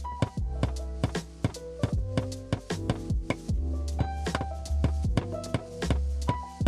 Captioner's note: delightful music; hammer thudding